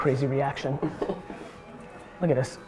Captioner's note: laughs